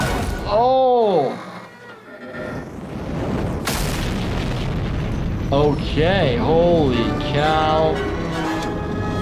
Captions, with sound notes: Oh! (spaceship engine starting) Okay. Holy cow.